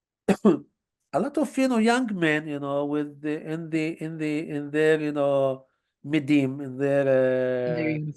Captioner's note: hebrew